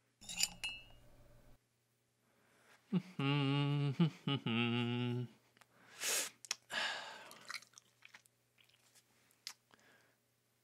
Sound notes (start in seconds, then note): 2.9 humming